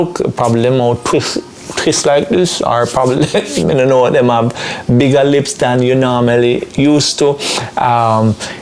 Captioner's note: speaking patois